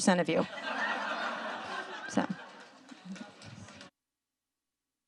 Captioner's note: audience laughing